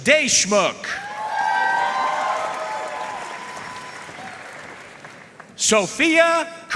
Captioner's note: audience cheering and applauding